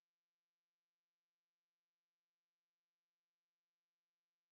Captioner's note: silence